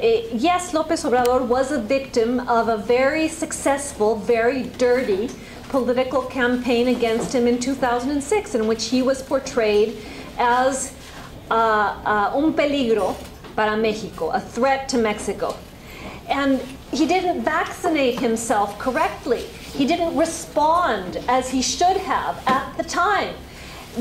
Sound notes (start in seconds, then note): 12.3 spanish